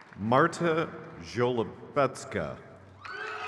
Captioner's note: crowd cheers